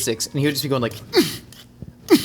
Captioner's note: beatboxing